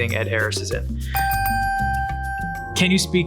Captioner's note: bell ding ding dings